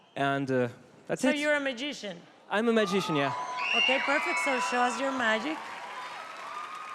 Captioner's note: cheering